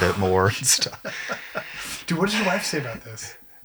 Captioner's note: laughs